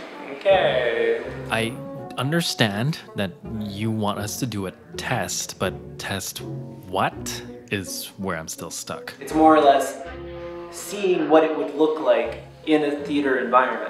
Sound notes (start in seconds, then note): none